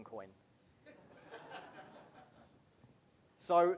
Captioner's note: laughing